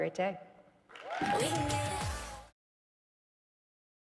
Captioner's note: audience cheering